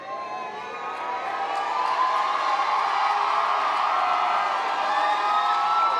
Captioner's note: members of the audience cheering